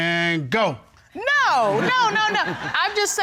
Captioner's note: audience laughing